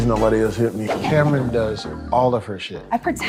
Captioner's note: wind whipping